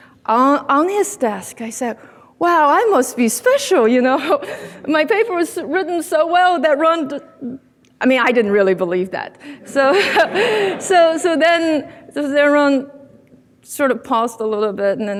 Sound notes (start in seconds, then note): 9.6 laughs; 9.6 audience laughing